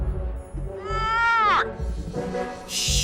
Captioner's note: prisoner groans